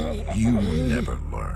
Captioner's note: snarling in agony